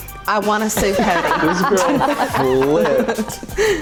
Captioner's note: laughing